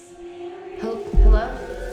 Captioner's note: eerie music; voices whispering